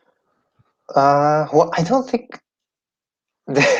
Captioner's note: laughing